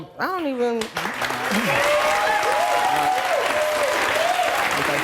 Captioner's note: audience clapping